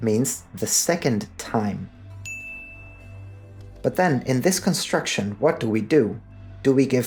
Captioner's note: ding